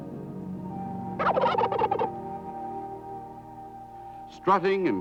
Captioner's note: gobbling